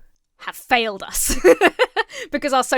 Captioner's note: laughs